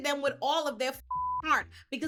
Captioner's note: beep